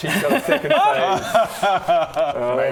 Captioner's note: betrayed laugh